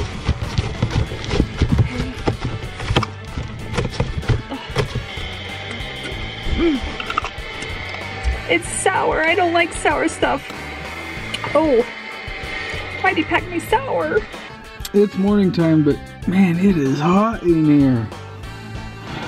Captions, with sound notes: (bottle sprays) (groans) (smacks lips) It's sour, I don't like sour stuff. Oh! Why'd they pack me sour? - It's morning time but, man, it is hot in here.